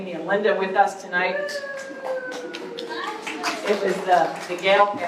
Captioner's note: applause